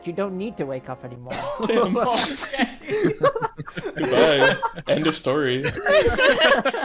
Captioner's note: everyone laughing in mild shock